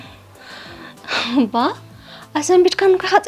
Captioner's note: laughs